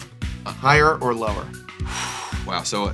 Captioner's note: nervously exhales